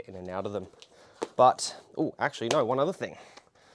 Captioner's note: shoes tap